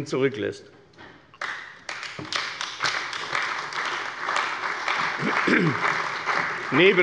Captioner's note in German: Beifall bei der CDU und dem BÜNDNIS 90/DIE GRÜNEN